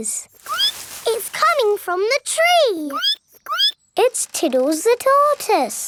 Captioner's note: squeak; squeaking